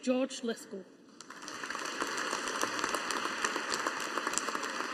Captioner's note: audience applauding